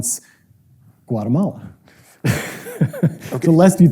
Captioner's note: laughs